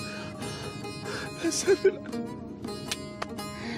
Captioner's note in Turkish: Müzik - Uzun hava; Vurma sesi